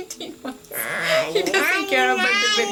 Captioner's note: laughing